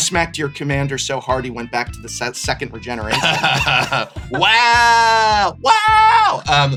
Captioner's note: shocked laughter